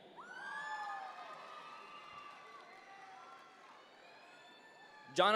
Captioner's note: audience members cheer